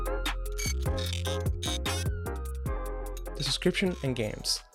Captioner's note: electronic squeaking